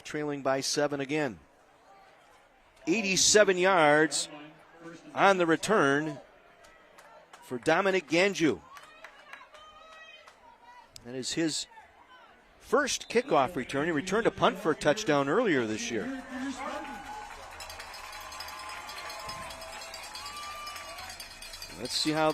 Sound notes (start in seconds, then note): 16.0 applause